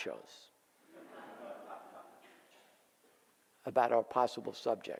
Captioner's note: audience laughs